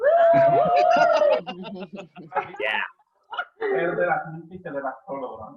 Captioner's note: laughter and cheers; speak in spanish